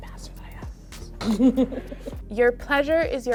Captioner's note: chuckles